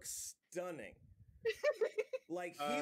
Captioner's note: laughs